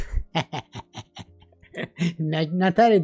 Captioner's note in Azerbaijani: gülüş